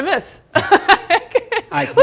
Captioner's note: laughing